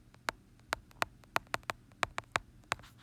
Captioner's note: tapping sound